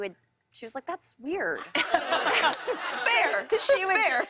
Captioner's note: laughter